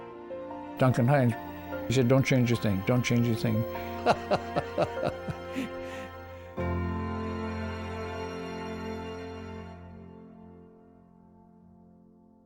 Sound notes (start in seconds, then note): 3.6 laughs warmly